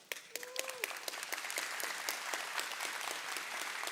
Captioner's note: audience clapping